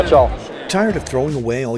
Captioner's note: voiceover